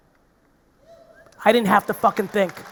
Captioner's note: audience member cheers